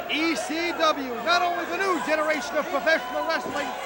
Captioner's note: crowd chatter